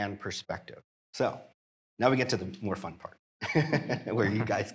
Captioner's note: laughing